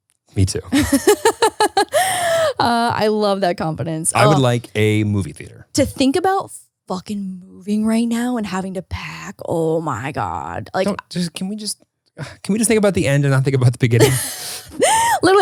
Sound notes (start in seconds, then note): 0.8 laughs